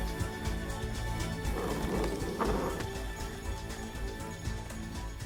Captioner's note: puppy growls